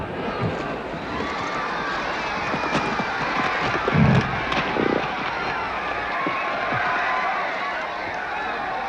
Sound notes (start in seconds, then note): 1.0 crowd screams